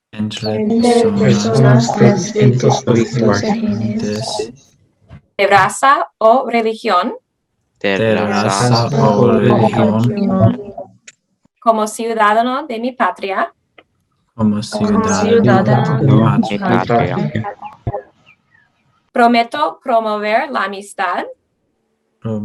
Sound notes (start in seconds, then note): 0.0 speaking Spanish; 0.2 group speaking Spanish; 5.6 speaking Spanish; 8.0 group speaking Spanish; 11.8 speaking Spanish; 14.5 group speaking Spanish; 19.3 speaking Spanish